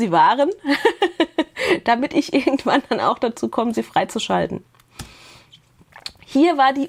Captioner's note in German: gelächter